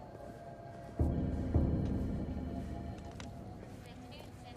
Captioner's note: phone ringing